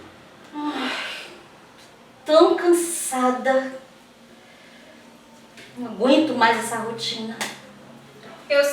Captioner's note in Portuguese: Suspiro